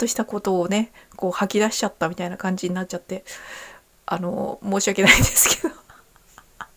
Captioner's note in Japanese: 笑い